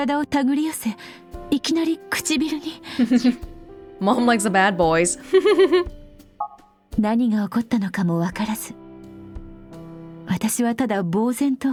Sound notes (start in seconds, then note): 3.0 chuckles; 5.3 chuckles